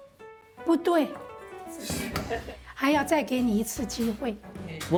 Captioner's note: speaking local language